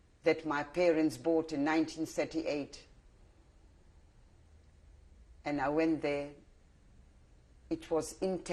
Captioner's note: pauses for 3 seconds